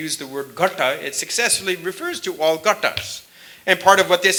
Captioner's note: sanskrit; sanskrit